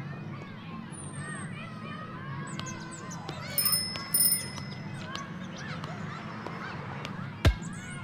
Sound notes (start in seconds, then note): 1.2 bicycle bell dinging; 2.3 birds chirping